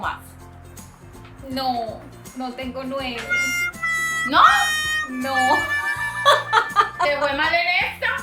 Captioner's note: laughs